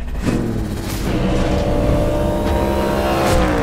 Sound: engine roaring

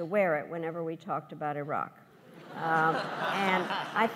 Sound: laughs

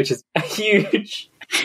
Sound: laughs

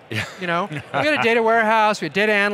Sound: laughing

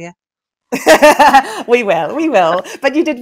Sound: laughs

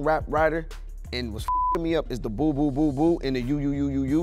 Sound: beep

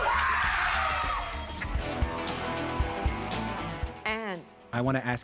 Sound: screaming

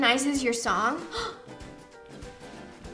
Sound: gasps

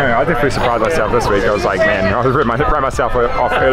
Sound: murmurs

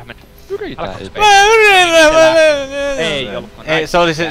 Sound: sob

